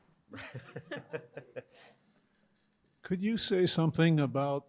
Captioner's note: panelists laughing